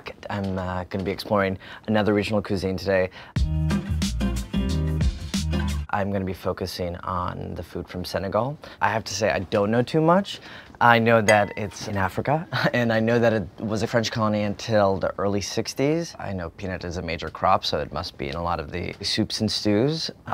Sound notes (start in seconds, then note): 3.4 bright upbeat music; 11.3 bell rings